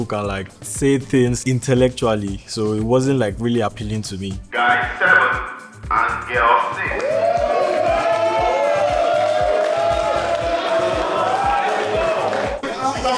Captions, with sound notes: can like, say things intellectually. So it wasn't, like, really appealing to me. Guy 7, and girl 6. [CHEERING] [APPLAUSE]